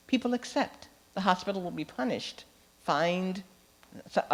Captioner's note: none